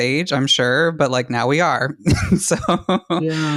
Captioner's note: laughs